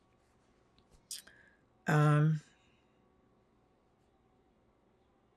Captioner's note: pauses 10 seconds